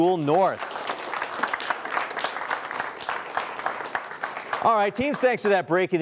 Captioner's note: applause